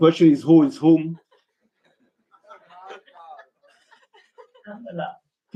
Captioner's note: laughter